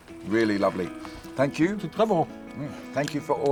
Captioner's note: speaks french